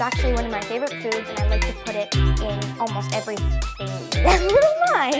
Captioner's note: laughs